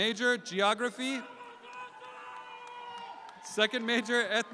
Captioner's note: shouts out